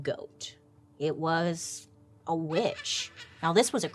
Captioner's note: witch cackling